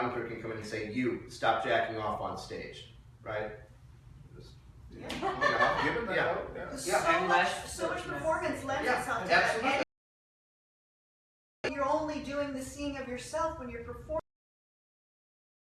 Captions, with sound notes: Right, the dramaturg can come in and say, “You, stop jacking off on stage,” right? (laughing) - So much performance lends itself to that. You’re only doing the seeing of yourself when you’re performing.